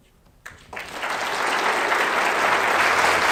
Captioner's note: applause